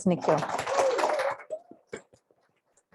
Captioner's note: applause